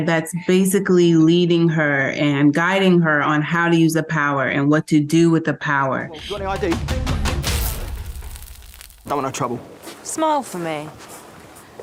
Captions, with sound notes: that's basically leading her and guiding her on how to use the power and what to do with the power. (electricity sparks) - Don't want no trouble. - Smile for me.